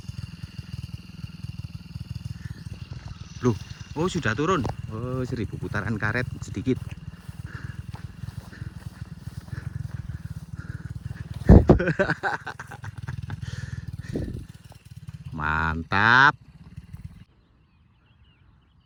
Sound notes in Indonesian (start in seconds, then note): 12.4 tertawa